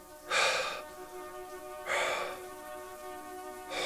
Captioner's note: shower running